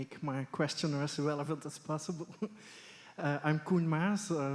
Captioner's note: chuckles